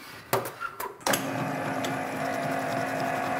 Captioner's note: rattling, roaring